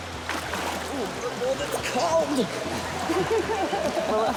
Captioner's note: laughs